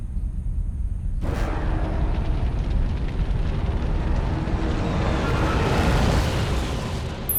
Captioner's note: fire crackling; dramatic music; electronic beeping